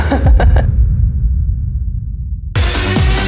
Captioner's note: dramatic noise